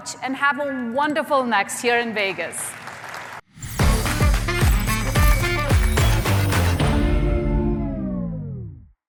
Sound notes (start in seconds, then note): 2.1 applause